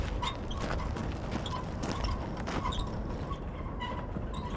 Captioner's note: wheelchair squeaking; footsteps crunching